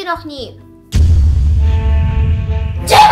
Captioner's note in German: Bumm